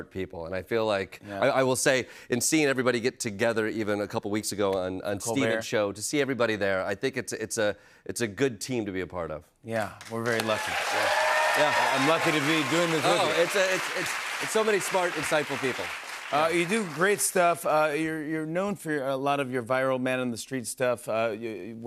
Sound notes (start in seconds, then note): 10.8 audience cheers